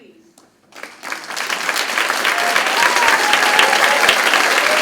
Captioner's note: crowd celebrates